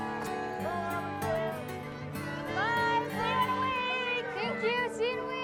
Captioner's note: cheering continues